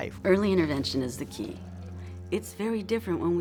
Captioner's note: female voice